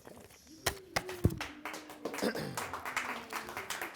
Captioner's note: applause